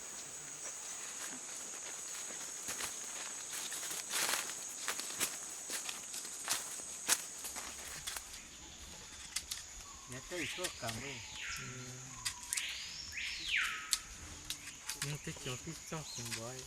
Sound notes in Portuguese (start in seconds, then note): 5.2 Passos sobre as folhas secas; 13.6 Pássaro distante